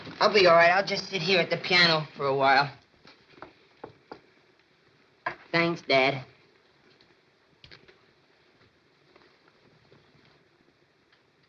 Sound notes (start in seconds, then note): none